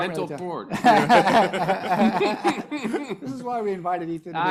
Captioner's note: panelists laughing